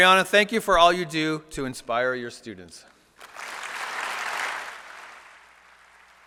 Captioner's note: applause